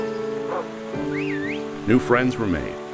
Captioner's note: pedestrian whistles; dog barking